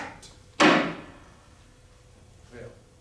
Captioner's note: gavel